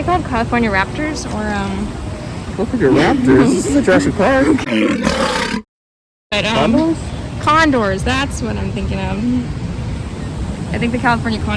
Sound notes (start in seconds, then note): 6.1 roar